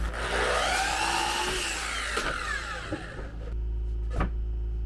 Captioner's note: drill whirring